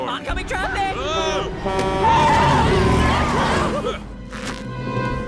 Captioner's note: horn blares; tires screech